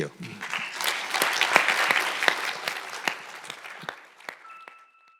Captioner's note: audience applauding